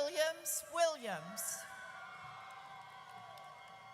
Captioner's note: audience cheers